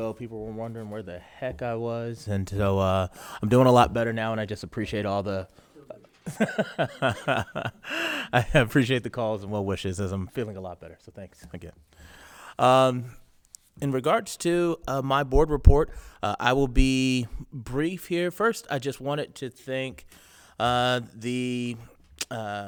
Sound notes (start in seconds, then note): 5.8 board member speaking faintly; 6.2 laughing